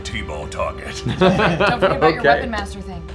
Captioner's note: laughs